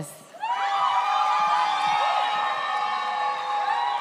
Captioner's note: audience cheers